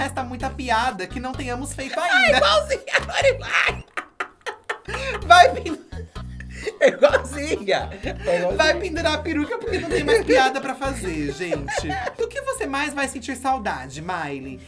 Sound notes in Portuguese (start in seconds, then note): 4.7 risos; 5.1 ambos riem